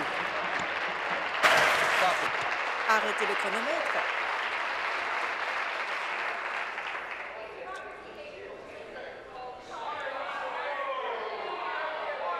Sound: applause

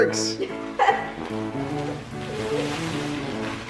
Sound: laughing

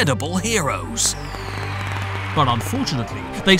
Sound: applause

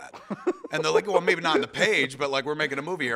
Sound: laughs

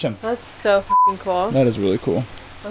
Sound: beep

